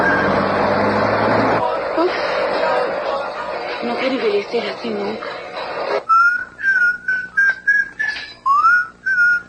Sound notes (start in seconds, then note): 6.0 whistling